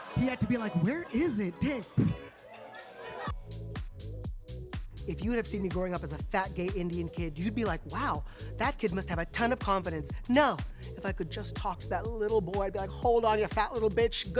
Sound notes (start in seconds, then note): 1.9 audience laughing; 1.9 blowing; 3.2 upbeat music